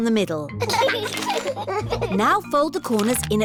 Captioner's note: both giggling